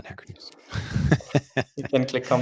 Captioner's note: chuckling